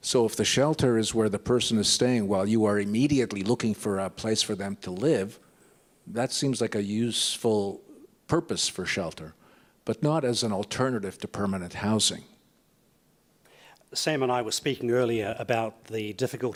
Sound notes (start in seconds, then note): none